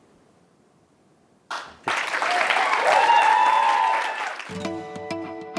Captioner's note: applause